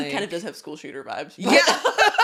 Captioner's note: laughing